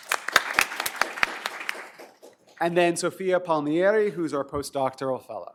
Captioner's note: applause